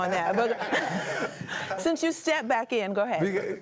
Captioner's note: laughter